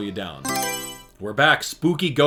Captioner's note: Mario Selection Sound